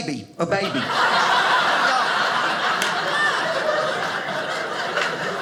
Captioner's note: audience laughing